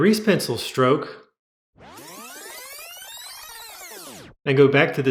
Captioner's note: fast forward sound